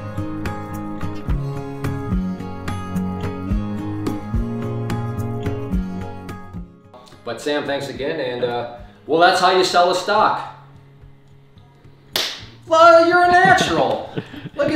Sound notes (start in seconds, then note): 12.1 hands clapping